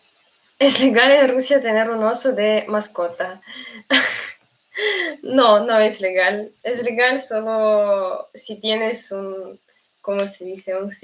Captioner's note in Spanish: risas